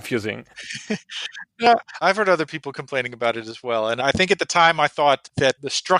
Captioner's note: laughs